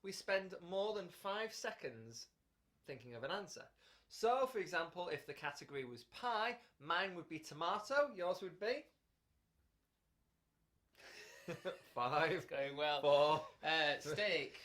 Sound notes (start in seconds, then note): 11.0 laughter